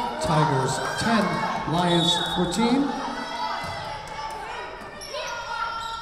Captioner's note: whistle blowing